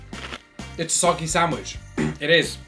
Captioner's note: lettuce crunches; clears throat